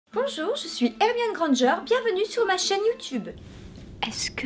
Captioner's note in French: ton dynamique